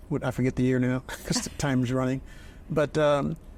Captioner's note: chuckles